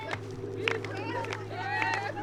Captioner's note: foot stomping